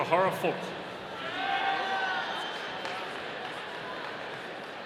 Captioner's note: audience cheering